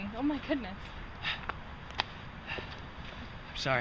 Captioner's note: Alex pants